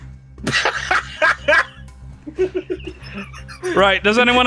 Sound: chuckles; laughs

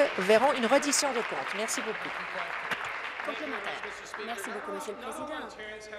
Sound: applause

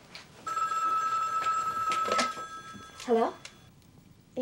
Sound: phone rings

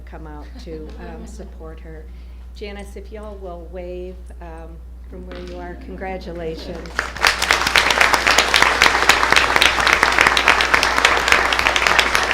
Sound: applause

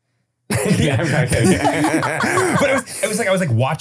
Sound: laughing

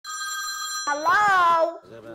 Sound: phone ringing

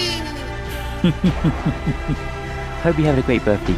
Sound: Sephiroth Laugh

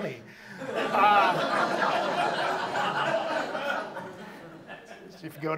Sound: audience laughs

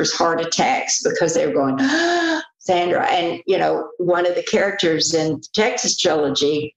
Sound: gasp

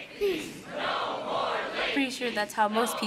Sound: crowd

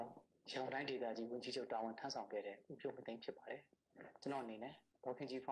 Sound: speaking in foreign language

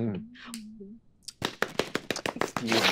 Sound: Erika clapping

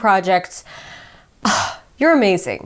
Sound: sighs

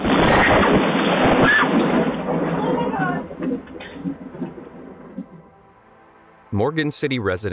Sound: tree explodes; lightning cracks; screaming

